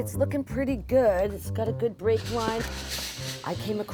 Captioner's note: steam hissing